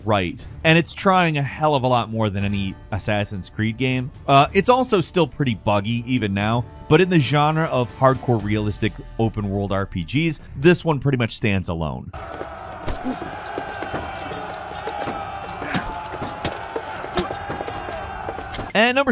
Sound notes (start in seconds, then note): 12.1 warriors yelling; 12.8 swords clanging; 16.7 blows thudding; 16.7 fighters grunting